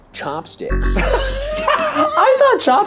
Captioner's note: laughing